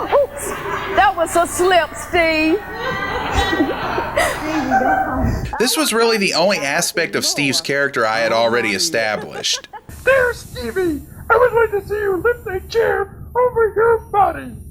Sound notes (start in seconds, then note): 2.5 laughter in studio